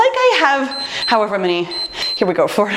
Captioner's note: timer beeps